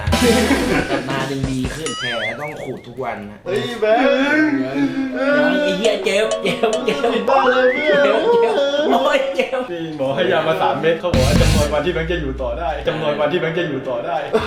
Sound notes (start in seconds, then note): 0.2 laughing; 3.8 crying